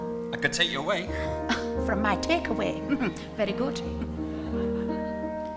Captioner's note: chuckles